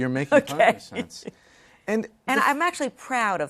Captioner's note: laughter